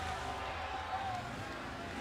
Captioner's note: crowd chatter